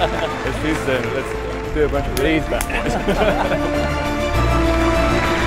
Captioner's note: high fives and laughter